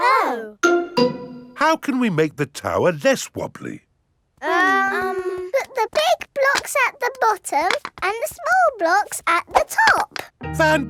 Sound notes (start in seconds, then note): 4.4 children hesitating